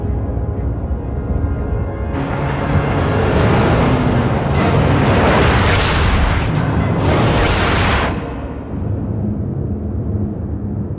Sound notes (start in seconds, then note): 3.3 suspenseful music; 6.9 whooshing